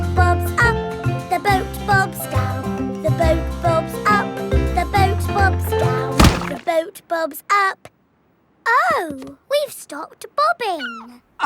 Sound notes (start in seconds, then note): 6.2 thuds